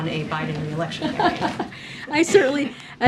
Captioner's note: laughs